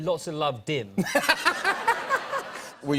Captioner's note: laughter